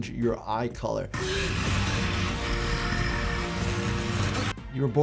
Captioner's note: actor growling; rod sizzling